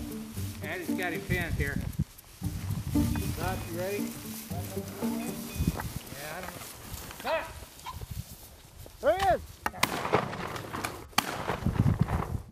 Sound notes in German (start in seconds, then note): 4.7 Geschwätz, Kragen Signaltöne; 9.7 Schüsse